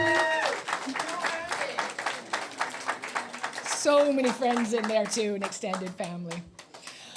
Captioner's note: applause